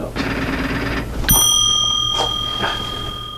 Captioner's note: bell dings